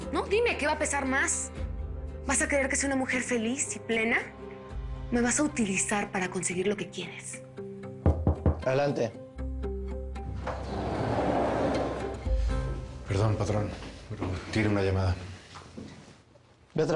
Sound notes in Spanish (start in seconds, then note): 8.0 Toques en la puerta